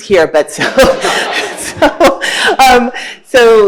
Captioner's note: laughing